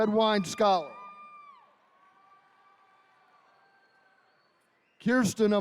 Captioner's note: attendees cheering